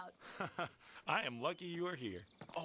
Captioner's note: chuckles